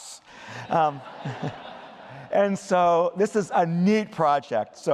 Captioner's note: laughter